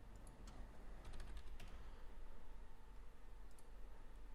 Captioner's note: types on keyboard